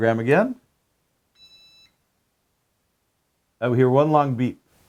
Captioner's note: powerbolt beeps